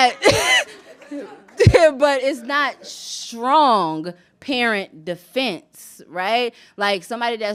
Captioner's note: laughs